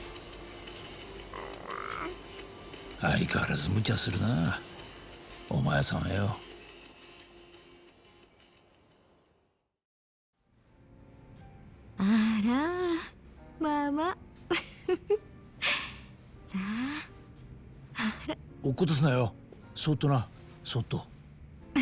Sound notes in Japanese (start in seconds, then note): 12.7 息をのむ音; 14.5 笑い